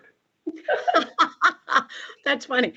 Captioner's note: laughter